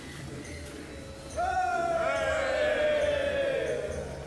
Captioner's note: all cheering